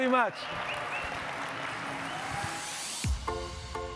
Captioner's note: audience cheering and clapping; upbeat music